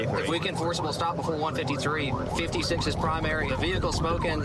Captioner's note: warning sirens